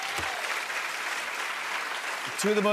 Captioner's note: cheers and applause